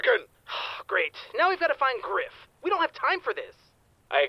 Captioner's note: sigh